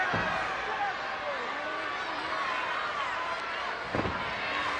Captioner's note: crowd yelling